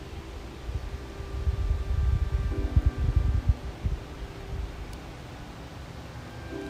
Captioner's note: wind blowing; peaceful music